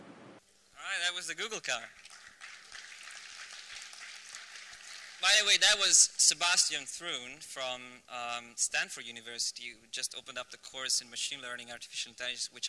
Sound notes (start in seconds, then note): 2.0 applause